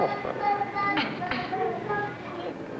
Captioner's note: coughs lightly